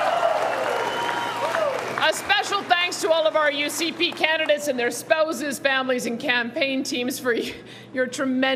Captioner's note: cheering